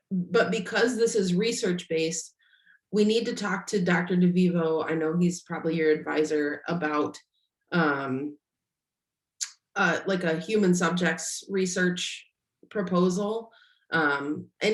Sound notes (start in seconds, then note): none